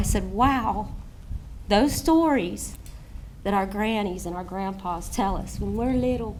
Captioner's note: none